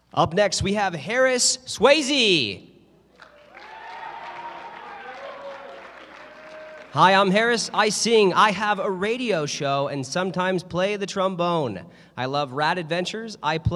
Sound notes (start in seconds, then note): 3.2 cheering